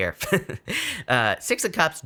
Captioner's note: laughing